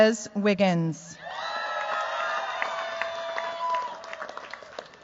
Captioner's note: cheers, applause